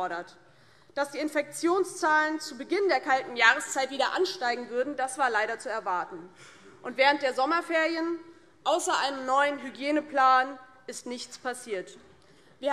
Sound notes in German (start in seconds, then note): none